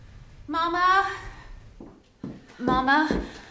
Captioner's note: sighs; footsteps